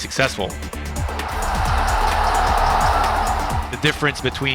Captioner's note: crowd cheers